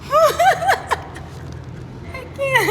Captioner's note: laughing